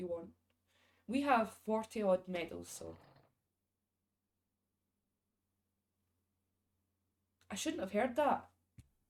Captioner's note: creaking